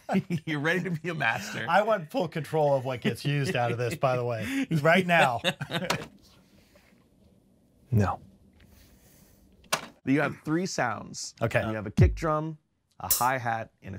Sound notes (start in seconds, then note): 6.2 laughs; 12.0 kick drum beats; 13.0 high hat pings